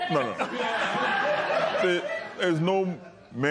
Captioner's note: laughter